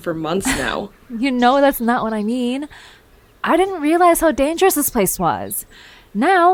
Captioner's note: laughs